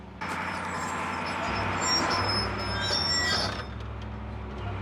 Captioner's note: track creaking